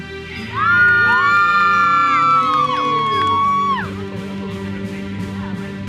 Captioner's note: audience cheers and applauds